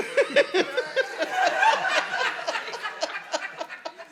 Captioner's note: audience laughing